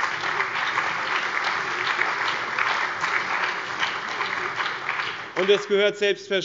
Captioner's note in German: Beifall